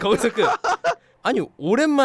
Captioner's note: laughing